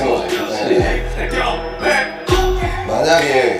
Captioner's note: haha